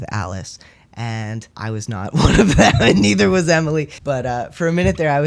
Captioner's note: laughter